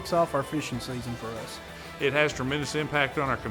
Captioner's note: voiceover